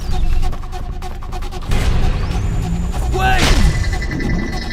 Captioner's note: photon gun charges up to fire